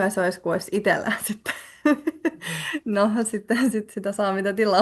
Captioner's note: naurua